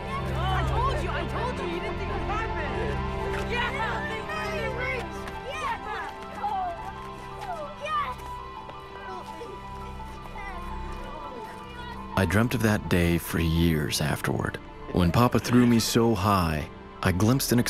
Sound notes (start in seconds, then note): 3.6 kids continue celebrating